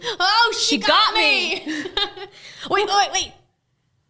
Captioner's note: laughing